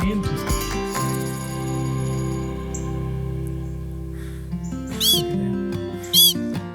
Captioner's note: soft atmospheric music; bird chirping